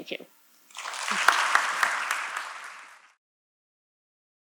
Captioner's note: applause